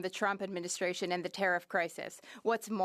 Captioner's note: speaking French